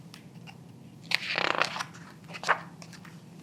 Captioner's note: pages rustling